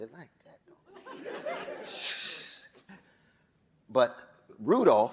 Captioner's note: audience laughing